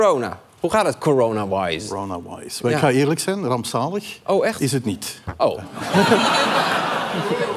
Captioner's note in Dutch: gelach